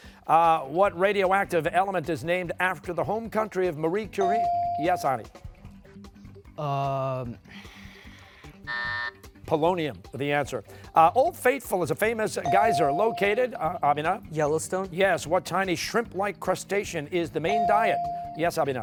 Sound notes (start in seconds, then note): 8.7 buzzer